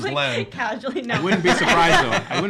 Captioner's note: everyone laughing